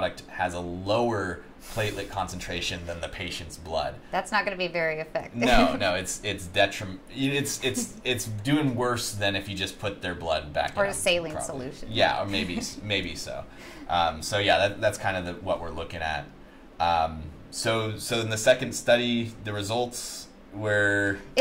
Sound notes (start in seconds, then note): 5.4 chuckles